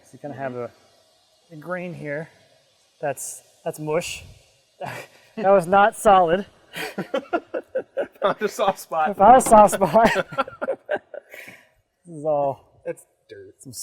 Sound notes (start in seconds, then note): 6.7 both laughing